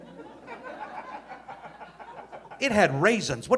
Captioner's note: audience laughing